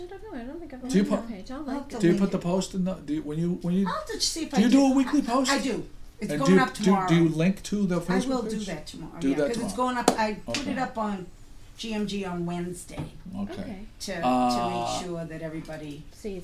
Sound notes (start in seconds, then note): 4.6 voiceover